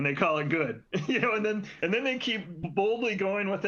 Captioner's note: laughter